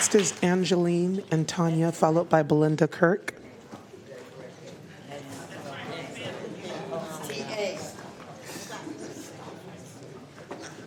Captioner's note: applause